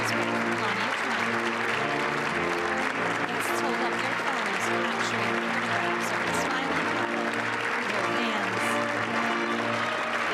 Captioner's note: applause